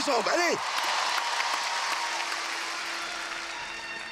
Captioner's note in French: applaudissements